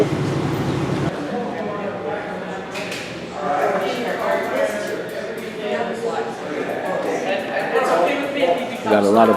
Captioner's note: indistinct chatter